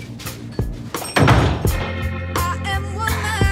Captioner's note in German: Rhythmische Musik; Klingeln